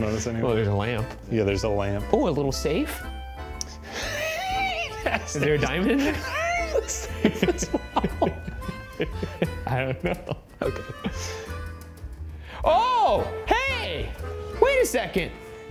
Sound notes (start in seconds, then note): 7.5 chuckling